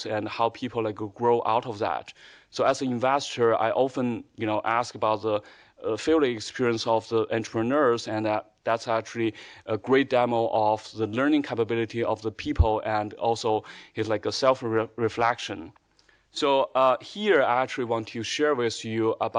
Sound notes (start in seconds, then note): none